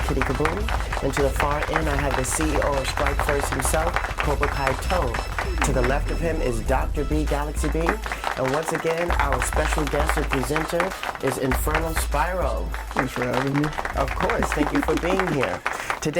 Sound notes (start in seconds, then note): 0.6 overlapping applause; 4.0 overlapping applause; 7.9 applause; 12.7 applause